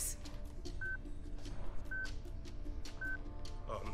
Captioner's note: beeping